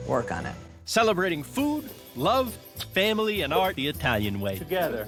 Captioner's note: in Italian